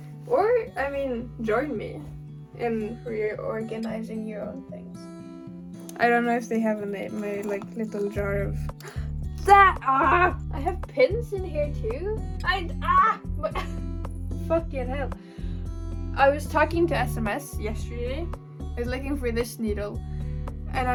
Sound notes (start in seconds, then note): 8.8 gasp